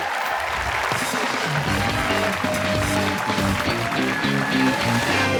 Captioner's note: cheers and applause